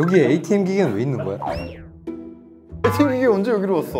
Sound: hehe

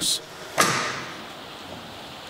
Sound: clacking

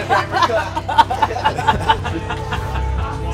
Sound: laughing

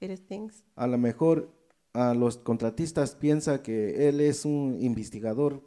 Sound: speaks in foreign language

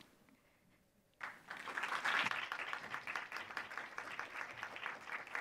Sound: audience applauding

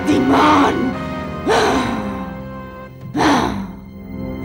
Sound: grunts

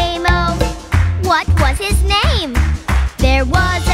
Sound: clap

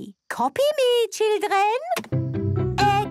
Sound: clicks; singing

